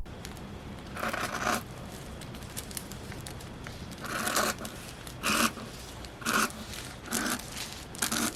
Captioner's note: satisfying scissors sounds